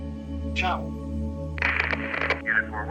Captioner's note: Frank speaks foreign language; static crackles